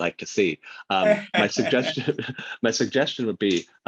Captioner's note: laughs